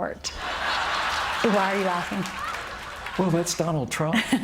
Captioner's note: laughter